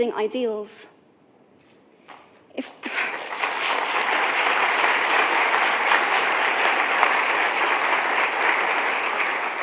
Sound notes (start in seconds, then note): 2.6 clapping